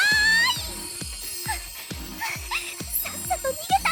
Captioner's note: panting